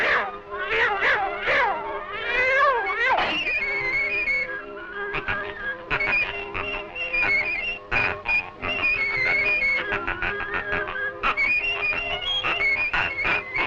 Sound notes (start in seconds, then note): 0.1 cheerful music continues; 5.1 duck quacking rhythmically